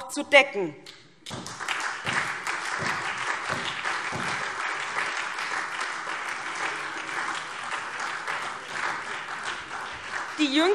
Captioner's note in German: Beifall